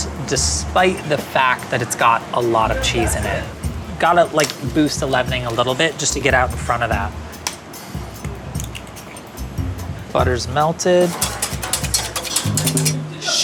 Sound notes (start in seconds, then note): 7.9 soft up-tempo jazzy music; 8.4 egg cracks; 10.8 whisk clinks